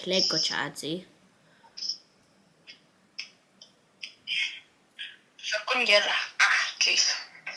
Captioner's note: long silence